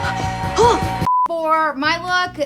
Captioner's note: rock music plays; gasps